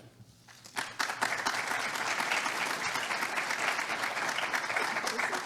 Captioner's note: audience applauding